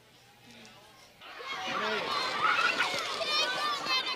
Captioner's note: children playing